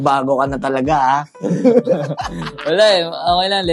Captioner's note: laughter